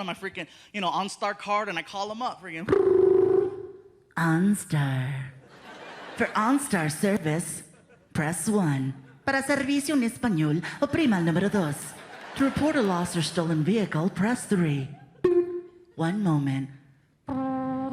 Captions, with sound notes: and my freaking, you know, OnStar card, and I call 'em up. [phone rings] [in mechanical female voice] "OnStar. "For OnStar service, press one. "Para servicio en espanol, oprima el numero dos. To report a lost or stolen vehicle, press three." [beeps] "One moment."